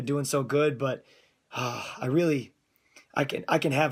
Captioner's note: sigh